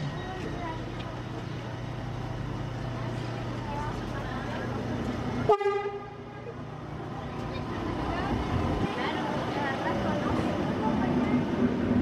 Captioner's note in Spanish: sonido ambiente del tren